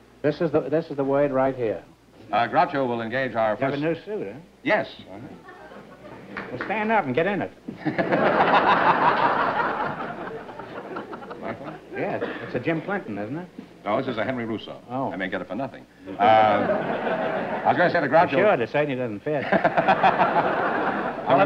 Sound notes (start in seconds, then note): 7.7 laughter